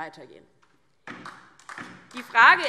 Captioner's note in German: Beifall DIE LINKE